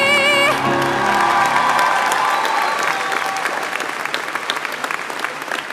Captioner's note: applause